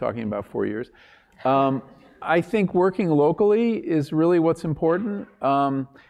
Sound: laugh

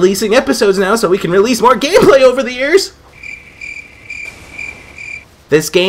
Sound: crickets

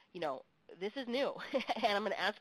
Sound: chuckles

